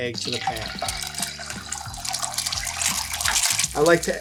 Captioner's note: butter sizzling